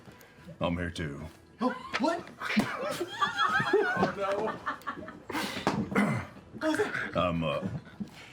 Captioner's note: laughter